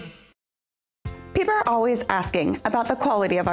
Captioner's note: voiceover